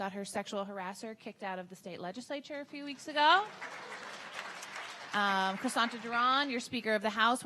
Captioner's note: audience clapping